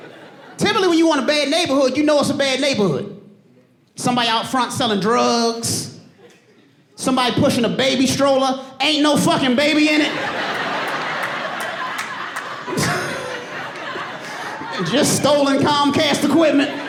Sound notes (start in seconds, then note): 9.7 audience laughing